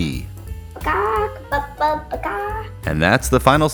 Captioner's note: chicken noises